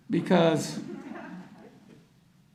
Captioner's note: audience laughter